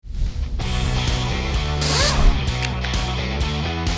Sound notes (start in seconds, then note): 1.6 whirs